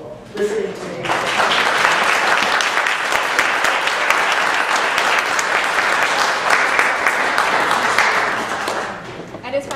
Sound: applause

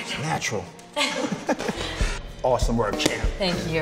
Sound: both laugh

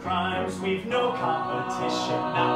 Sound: others vocalize in background

